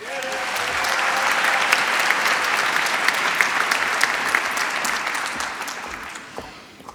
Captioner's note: applause